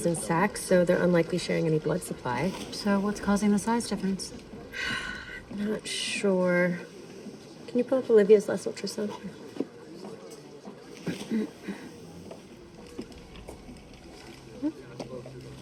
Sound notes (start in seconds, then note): 4.6 sighs